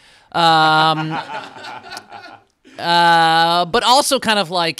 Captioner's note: cast laughing